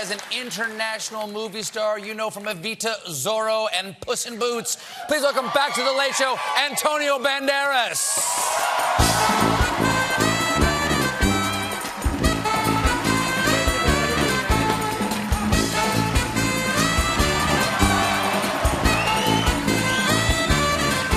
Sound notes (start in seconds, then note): 7.7 cheers and applause